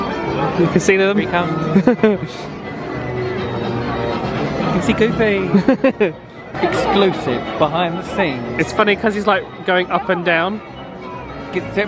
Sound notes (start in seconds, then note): 5.4 laughs